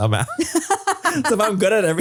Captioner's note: laugh